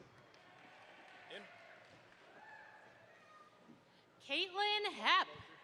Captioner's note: audience applauds